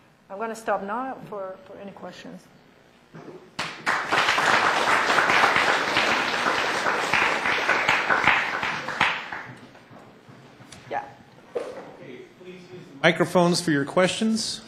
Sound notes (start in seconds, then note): 3.5 applause